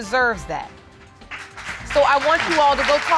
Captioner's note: audience applauding